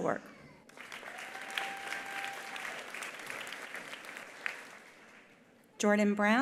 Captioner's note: attendees applauding; attendee cheering